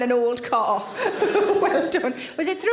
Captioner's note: Sarah laughs